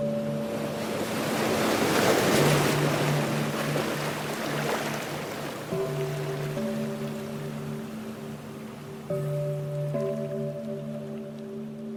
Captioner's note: heavy waves crashing